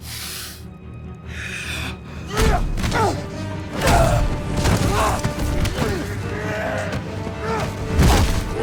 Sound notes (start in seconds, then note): 2.6 grunting